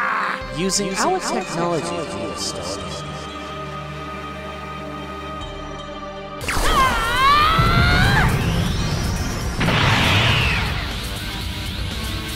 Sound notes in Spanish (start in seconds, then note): 0.0 Grita dolorosamente; 6.5 Grita